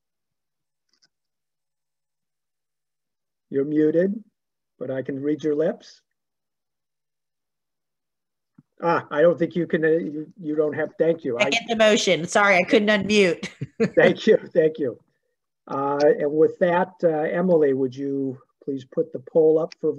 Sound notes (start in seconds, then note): 13.4 laughs